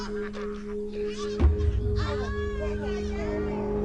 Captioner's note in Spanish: Risas